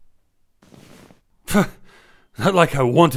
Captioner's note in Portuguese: Bufa